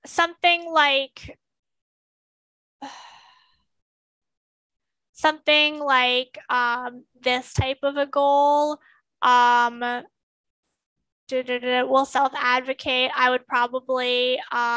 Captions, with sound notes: (sighs) Something like this type of a goal du, du, du, "Will self-advocate," I would probably